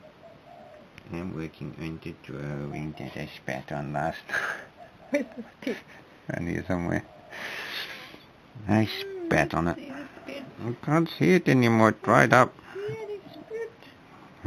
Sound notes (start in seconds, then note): 4.1 laughs